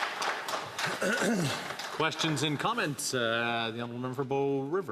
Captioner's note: some Applause